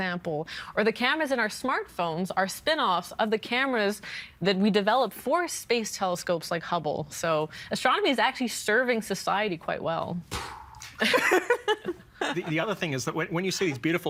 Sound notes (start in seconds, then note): 10.4 imitating explosion, laughing